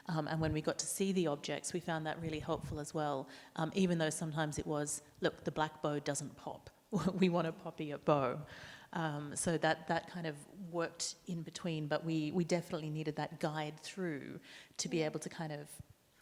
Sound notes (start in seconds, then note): 6.9 chuckles